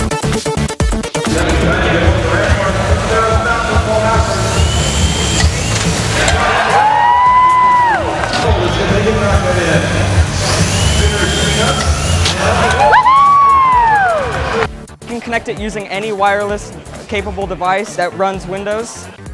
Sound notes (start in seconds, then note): 1.1 cheering